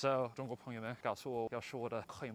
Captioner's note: Mandarin